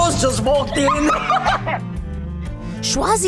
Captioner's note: laughing